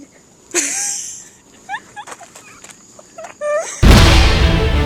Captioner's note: laughter